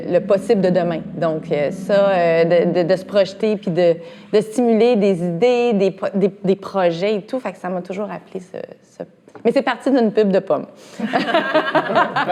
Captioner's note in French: rires